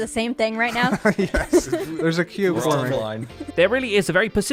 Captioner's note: chuckles; laughs